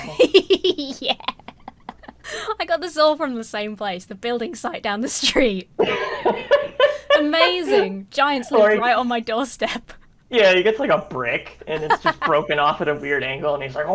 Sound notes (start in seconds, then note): 0.0 laughs; 5.8 laughs